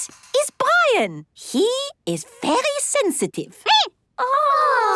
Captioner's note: squeaking